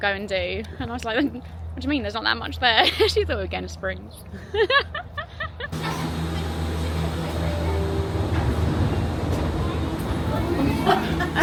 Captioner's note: laughter